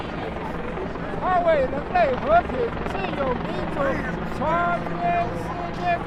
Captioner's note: speaks in a foreign language